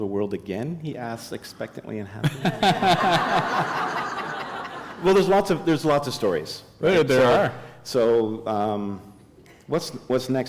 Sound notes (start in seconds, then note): 2.2 laughter